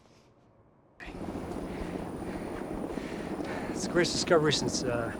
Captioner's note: helicopter whirring